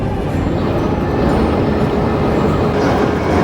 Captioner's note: wind blowing